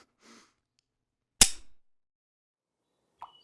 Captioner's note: click